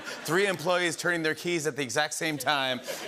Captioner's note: laughter